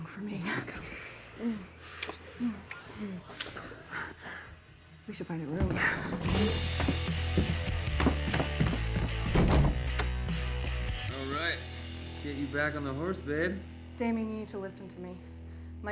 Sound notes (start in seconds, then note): 6.7 upbeat hard rock; 9.2 lock clacking